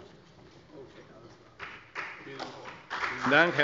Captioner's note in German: Beifall